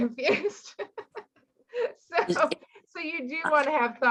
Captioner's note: laughing